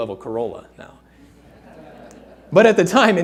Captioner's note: audience laughing